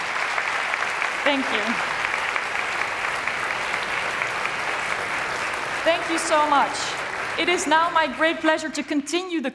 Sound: applause

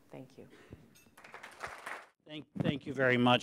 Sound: applause

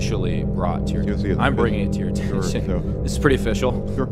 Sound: laughs

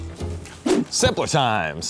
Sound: whoosh

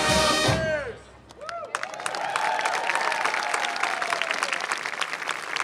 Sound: applause

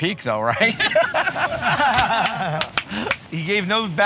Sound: laughs

